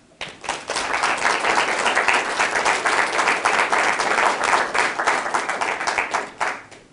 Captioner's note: applause